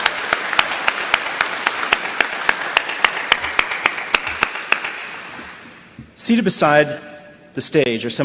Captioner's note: applause